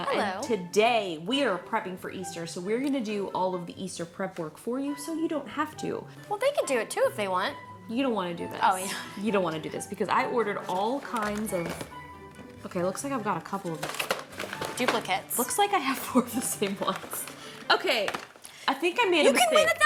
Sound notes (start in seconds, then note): 17.4 laughs